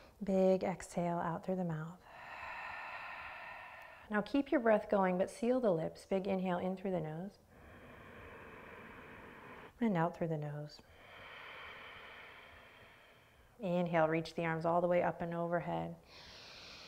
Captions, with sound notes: Big exhale out through the mouth. Now keep your breath going, but seal the lips. Big inhale in through the nose. (inhaling) And out through the nose. (exhaling) Inhale, reach the arms all the way up and overhead.